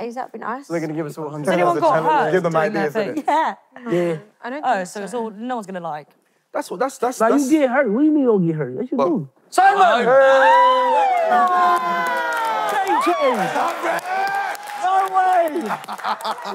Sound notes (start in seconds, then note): 9.8 contestants cheering